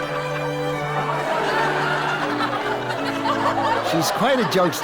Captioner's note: audience laughs